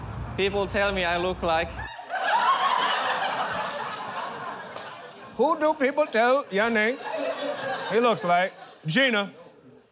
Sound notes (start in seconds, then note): 5.0 mocking accent